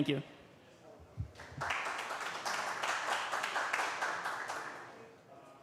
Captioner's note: applause